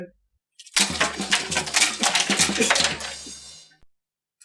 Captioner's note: clattering of pens